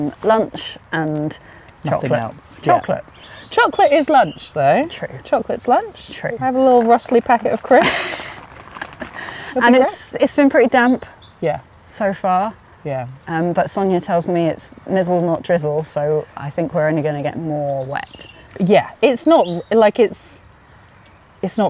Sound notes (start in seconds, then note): 7.8 giggles